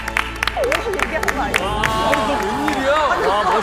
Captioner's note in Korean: 이등변 박수